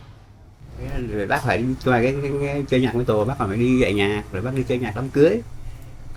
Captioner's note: speaking foreign language